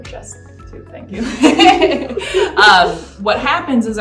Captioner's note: both laughing